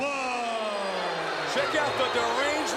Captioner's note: crowd booing